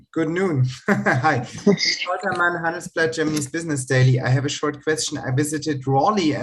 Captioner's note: laughter